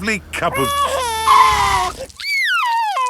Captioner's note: tires screeching; crying